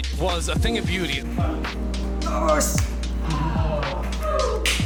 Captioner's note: group chatter